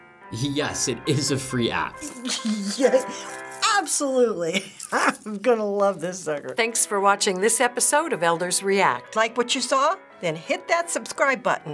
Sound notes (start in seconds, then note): 2.0 giggling; 4.5 laughs